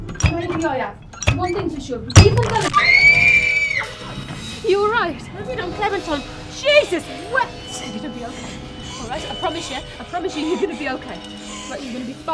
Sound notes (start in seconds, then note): 2.7 metal crushes bone; 11.3 Clementine breathes heavily